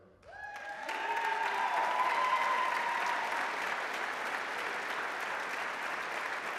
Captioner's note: applause, cheering; applause